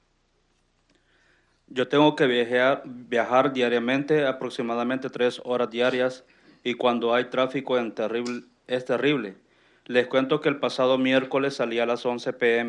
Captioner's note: speaking in Spanish